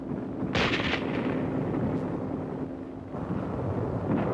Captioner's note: guns firing